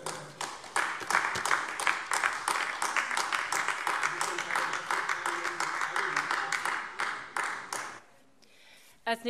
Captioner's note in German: Beifall AfD